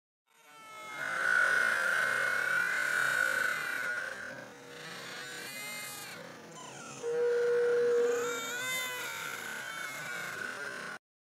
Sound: Lilo and stitch, brother bear, barbie Mattel doll crying

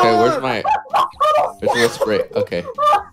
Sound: laughing

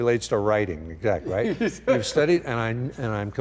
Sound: laughing

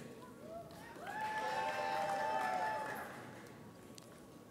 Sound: audience cheers

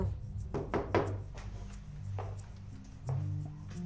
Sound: loud knocking

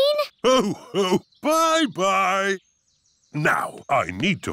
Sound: laughs

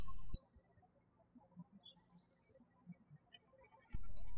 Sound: birds chirping

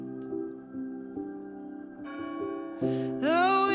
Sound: bell rings

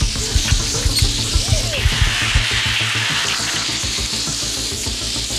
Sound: trap squeaking

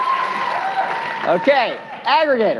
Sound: cheering; applause

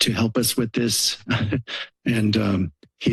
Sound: laughs

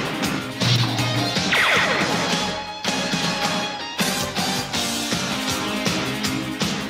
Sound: intense rock music; laser zapping

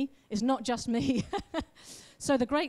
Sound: laughs

